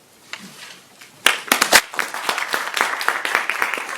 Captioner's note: audience clapping